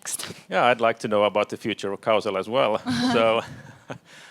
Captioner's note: laughs